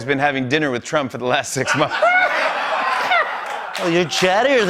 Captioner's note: laughter